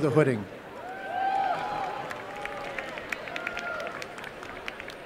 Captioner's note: applause